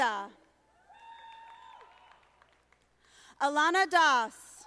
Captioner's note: audience applauding